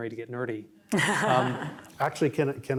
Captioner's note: laughter